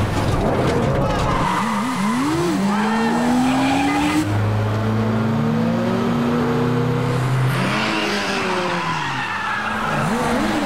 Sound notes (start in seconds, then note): 2.6 honking; 8.1 tires screeching